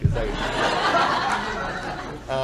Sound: audience Laughing

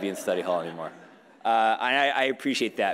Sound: audience laughing

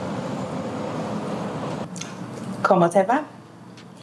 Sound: Heather speaks in foreign language

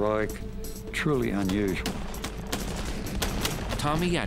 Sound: gunshots

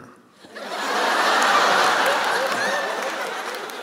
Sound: laughter

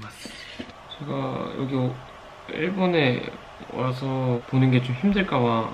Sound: water is boiling in the back

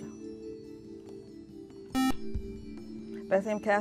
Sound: buzzer

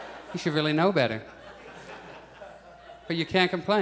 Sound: audience chuckles

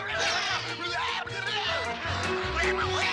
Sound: yelling

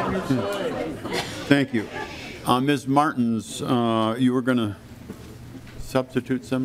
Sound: lauging

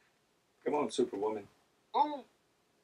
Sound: voiceover

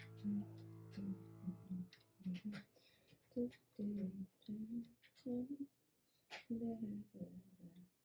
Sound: humming

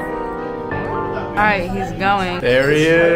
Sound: people speaking indistinct

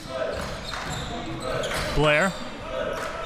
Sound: crowd cheering

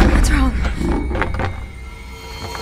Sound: rattling

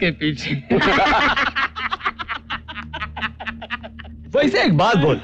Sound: laughs

